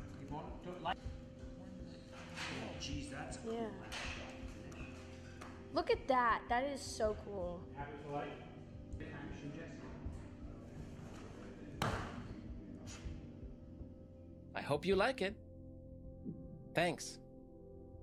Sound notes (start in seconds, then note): 11.8 body slams; 12.9 blows air